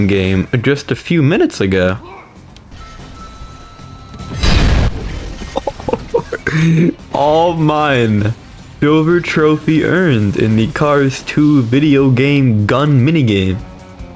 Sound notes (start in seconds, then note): 5.3 laughs to myself; 6.6 inhales Oxygen